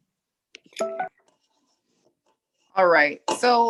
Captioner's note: computer notification rings